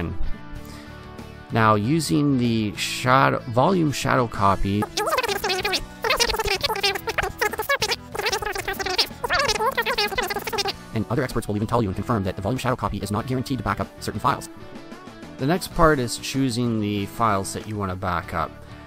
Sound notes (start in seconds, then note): 4.8 chipmunk chatter